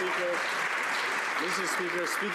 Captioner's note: some Applause